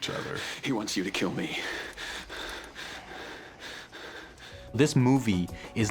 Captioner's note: breathing excessively